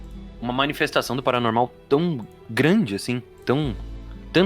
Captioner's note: none